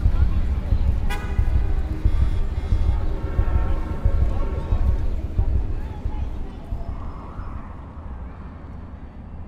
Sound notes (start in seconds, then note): 0.0 traffic hums; 1.0 horns honk